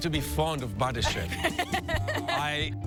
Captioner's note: laughs